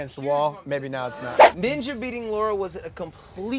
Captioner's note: air whooshes